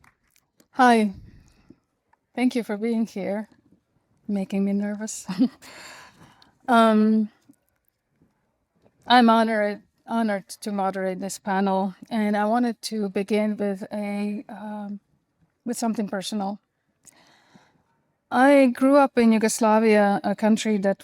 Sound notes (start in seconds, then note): 5.3 chuckles